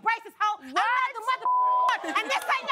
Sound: beep

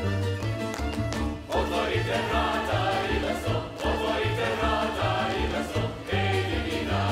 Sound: feet stomping; choir singing

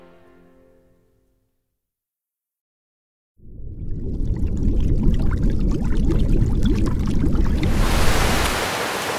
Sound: bubbling

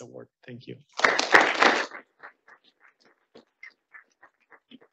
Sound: audience applauding

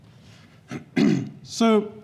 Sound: clears throat

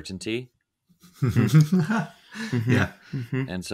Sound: both laughing

